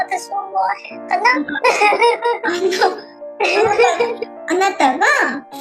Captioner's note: laughs